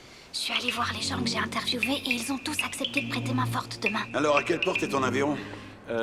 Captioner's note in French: chuchotant